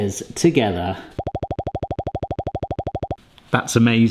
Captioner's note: makes popping noises